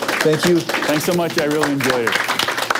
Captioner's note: applause